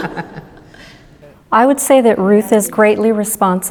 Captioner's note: laughter